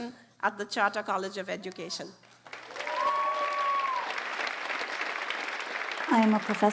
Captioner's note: applause